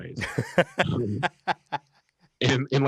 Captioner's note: laughs